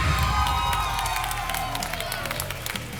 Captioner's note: applause and cheering